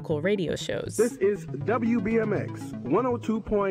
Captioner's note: soundbite of archived recording